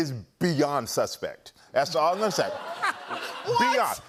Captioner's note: laughter